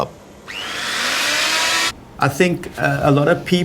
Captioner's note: electric sander whirs